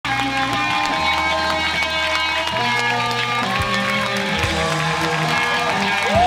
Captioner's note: applause; upbeat music